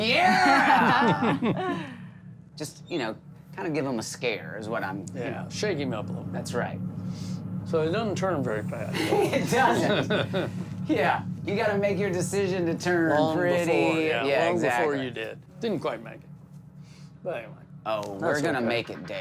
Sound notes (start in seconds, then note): 2.5 laughter; 8.9 laughter